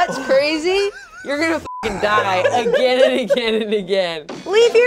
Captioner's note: beep